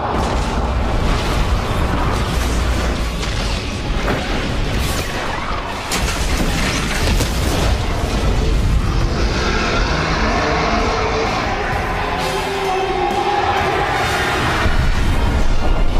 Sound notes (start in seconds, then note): 8.7 roars